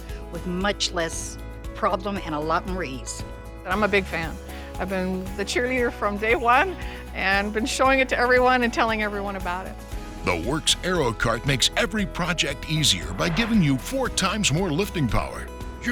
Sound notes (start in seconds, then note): 10.2 voiceover